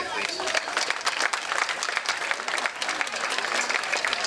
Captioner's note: crowd clapping